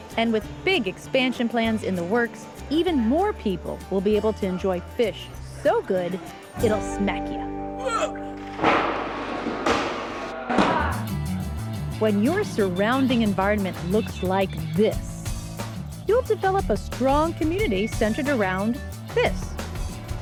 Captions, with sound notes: -And with big expansion plans in the works, even more people will be able to enjoy fish so good, it'll smack you. -[ Grunts ] [ Thud ] When your surrounding environment looks like this, you'll develop a strong community centered around this.